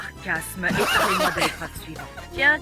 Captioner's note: laughs